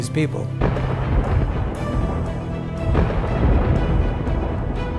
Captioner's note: thunder booming